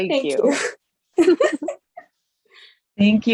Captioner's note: laughs